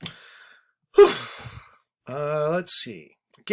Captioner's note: sighs